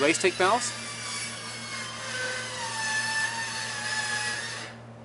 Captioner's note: machine whining